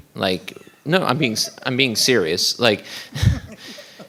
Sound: board members laugh

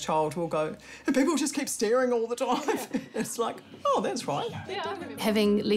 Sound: laughs

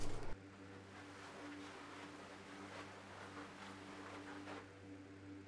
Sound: fans continue to blow throughout

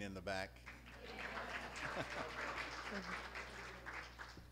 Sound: applause

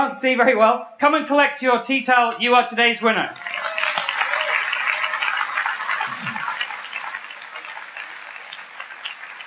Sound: applause

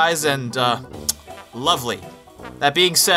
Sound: kiss

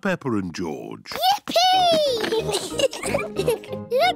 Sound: giggles

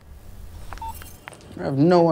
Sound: phone beep

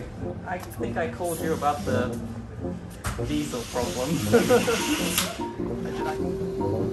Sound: laughs

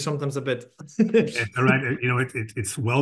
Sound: laughs

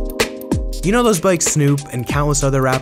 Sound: funky music; voiceover

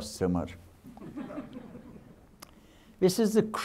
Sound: audience laughing

